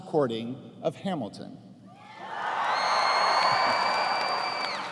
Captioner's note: cheers and applause